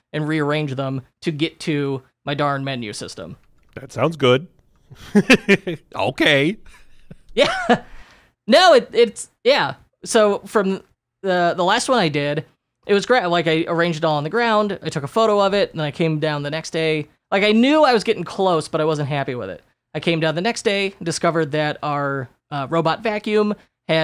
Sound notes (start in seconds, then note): 4.9 laughs